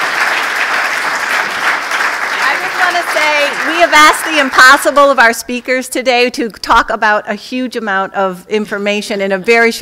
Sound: applause

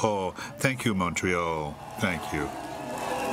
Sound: speaking French

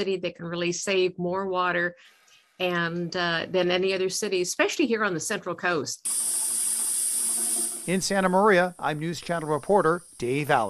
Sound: water pouring out of faucet

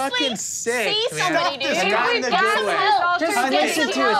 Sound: murmurs

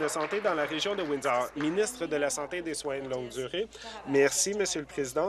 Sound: applause

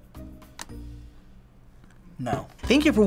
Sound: click

